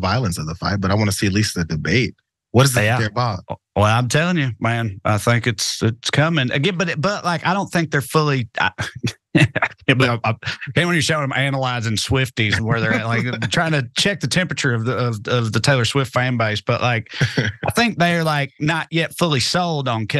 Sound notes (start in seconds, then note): 9.2 laugh